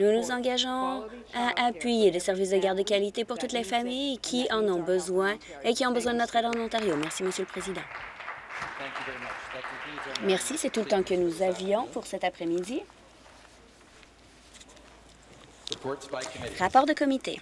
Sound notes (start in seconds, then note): 9.7 some Applause